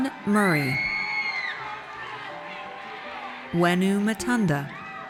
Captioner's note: audience cheers; audience cheers